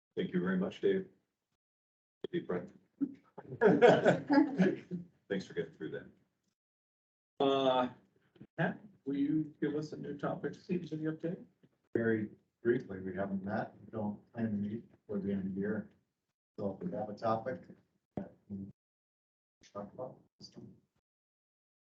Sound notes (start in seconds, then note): 3.4 people laughing; 12.0 pat